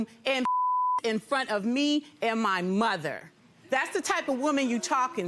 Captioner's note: beep